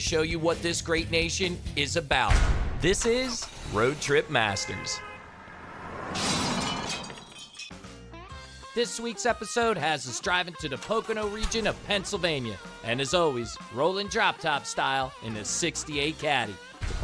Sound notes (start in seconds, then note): 3.7 horn honking; 6.1 glass breaking